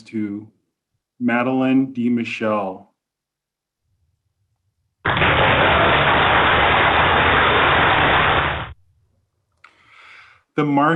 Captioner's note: applause